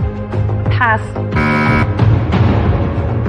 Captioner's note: buzzer sounds